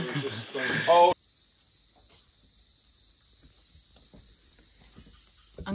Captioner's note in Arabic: النقيق السيكادا